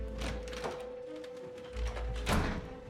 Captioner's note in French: musique dramatique; porte